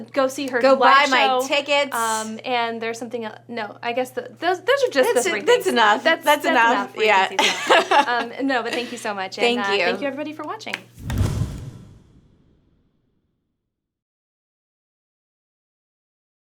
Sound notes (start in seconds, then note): 6.8 laughs